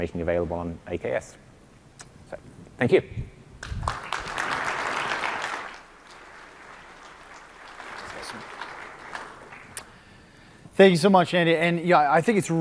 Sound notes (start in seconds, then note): 6.4 applause